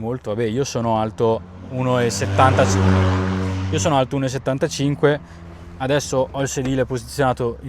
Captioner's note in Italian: rombo del motore